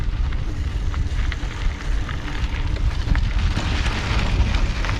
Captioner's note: bicycle tire crunching